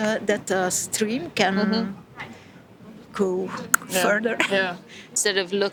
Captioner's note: tongue click